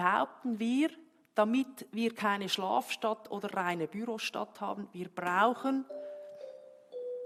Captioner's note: bell ring